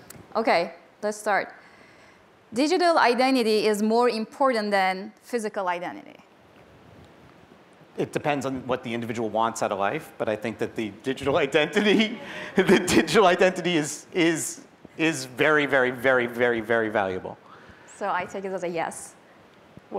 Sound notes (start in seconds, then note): 11.7 laughs